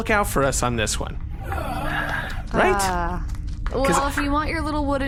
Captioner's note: C-53 and Dar sigh